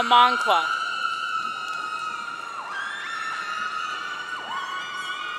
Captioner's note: audience cheering